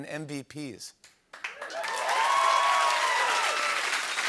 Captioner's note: cheers and applause